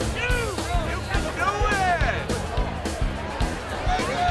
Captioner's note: crowd chattering